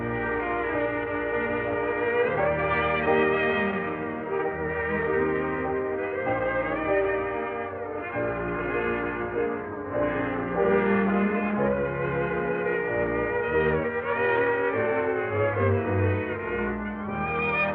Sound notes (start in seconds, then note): none